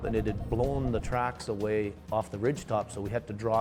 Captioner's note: voiceover